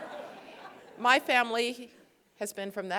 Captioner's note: laughter